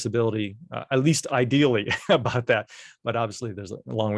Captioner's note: laughter